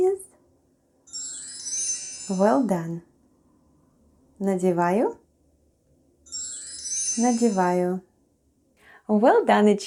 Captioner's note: chime sound